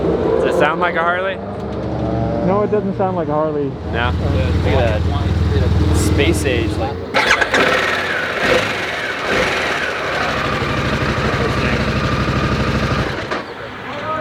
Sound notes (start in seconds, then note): 7.2 engine revving